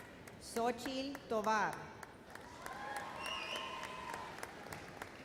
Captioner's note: audience applauds